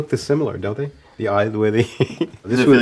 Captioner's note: laughing